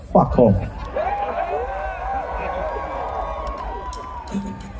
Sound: cheering

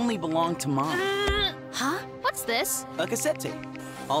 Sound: groaning

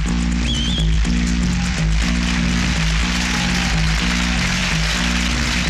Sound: crowd Applauding

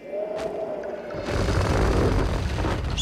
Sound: grinding

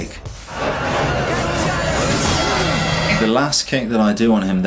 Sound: crowd yells

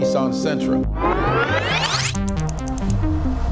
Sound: tape whirring; date clicking

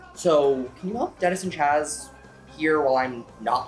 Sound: none

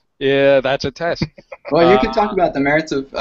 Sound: laughs

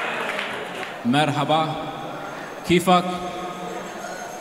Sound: arabic: Hi, how are you?

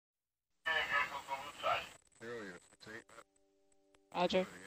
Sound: man chatters over radio

